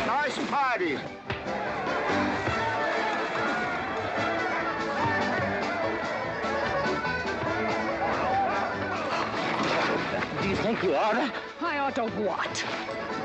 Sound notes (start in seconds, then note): 0.0 western fight music; 1.2 sounds of scuffling & fighting